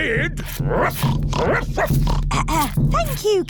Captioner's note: oinks; barks; clears throat